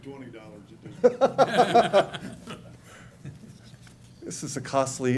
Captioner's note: laughter